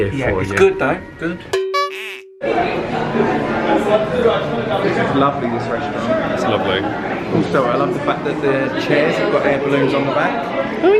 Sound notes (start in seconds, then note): 1.6 honking SFX; 2.4 light chatter